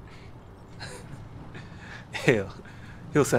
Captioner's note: chuckles